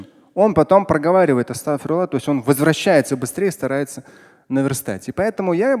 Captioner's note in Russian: говорит на арабском